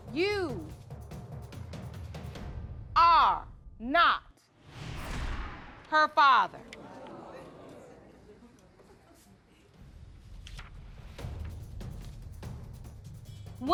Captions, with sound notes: you are not her father. (AUDIENCE MURMURING)